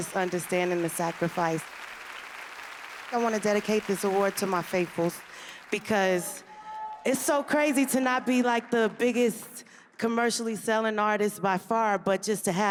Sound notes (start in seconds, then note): 1.8 applause